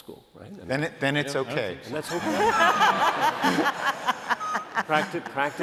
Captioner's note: laughter